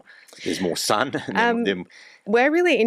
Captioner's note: laughs